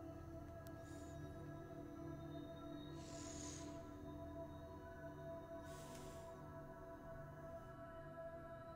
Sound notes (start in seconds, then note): 3.0 heavy breathing